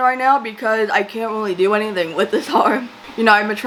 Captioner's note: laughs